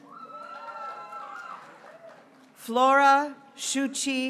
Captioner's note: graduates cheering